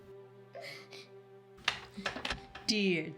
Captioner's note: Heidi crying